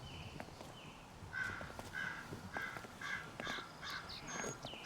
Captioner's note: crows cawing